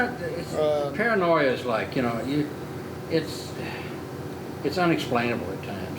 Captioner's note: sighing